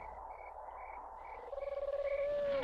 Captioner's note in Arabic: تغريد الحشرات; هبوب الرياح; هديل الطيور